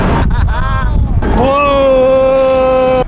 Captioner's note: laughing